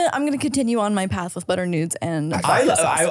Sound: laughing

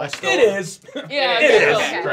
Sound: chuckles

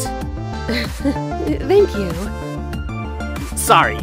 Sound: chuckles

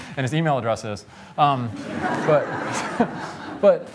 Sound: laughter

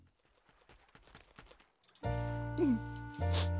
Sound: sighing

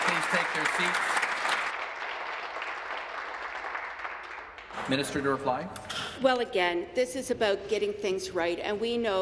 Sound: applause

